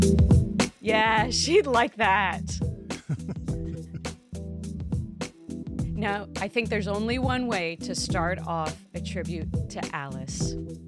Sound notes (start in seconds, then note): 2.9 laughs